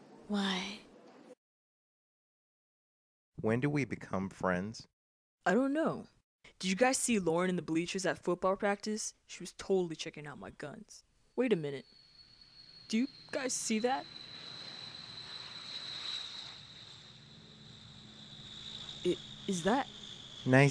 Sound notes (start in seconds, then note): 14.0 high pitched airplane engine noise